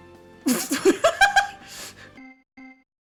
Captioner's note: laughter